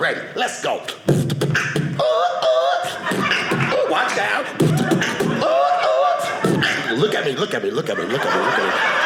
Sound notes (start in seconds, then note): 4.4 audience laughing; 8.1 audience laughing